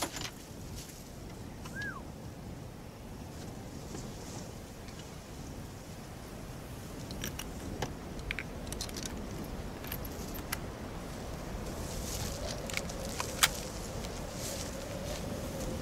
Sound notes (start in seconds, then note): 13.1 gun loading